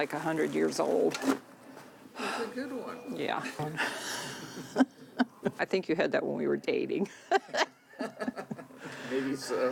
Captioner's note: laughing